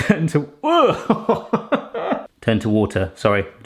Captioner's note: laughing